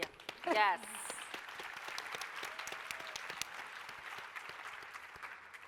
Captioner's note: applause, cheering